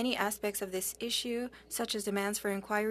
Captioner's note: speaking French